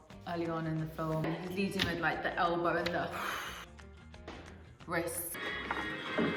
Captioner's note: exhale